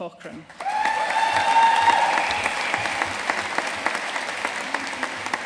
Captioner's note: audience cheering and applauding